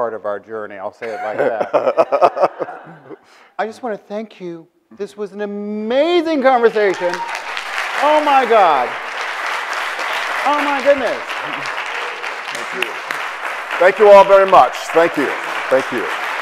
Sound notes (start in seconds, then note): 1.0 Bill laughs; 9.6 audience applauds